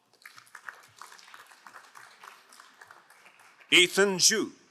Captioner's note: crowd applauding